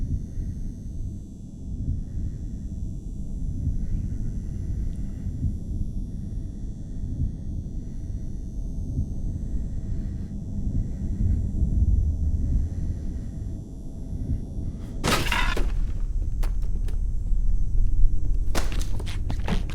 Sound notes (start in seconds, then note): 12.2 heavy breathing; 15.0 door smashes